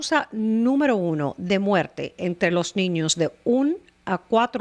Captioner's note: Hablando ingl\s